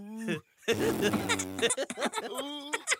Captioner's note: laughing